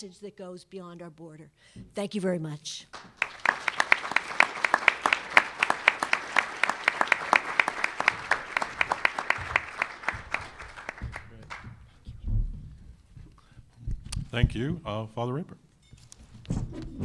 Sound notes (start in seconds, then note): 5.5 applause